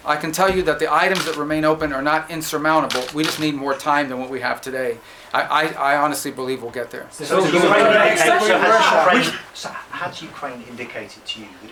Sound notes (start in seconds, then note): 7.3 reporters clamoring